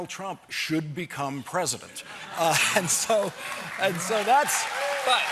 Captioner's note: cheers and applause